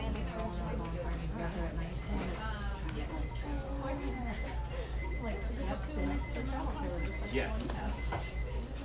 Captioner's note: beeping